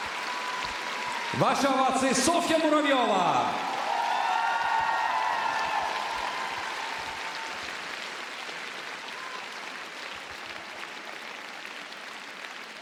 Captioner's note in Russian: ликование